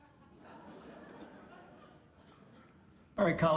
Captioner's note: audience laughs